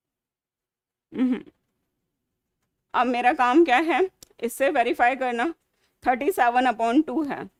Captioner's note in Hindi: गला साफ़ करने की आवाज़